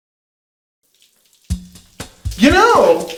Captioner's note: shower running